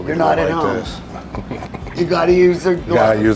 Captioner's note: chuckles